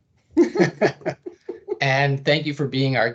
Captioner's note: laughing